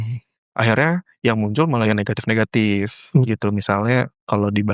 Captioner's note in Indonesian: berdehem